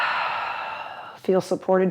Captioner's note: exhales